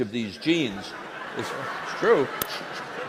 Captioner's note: laughter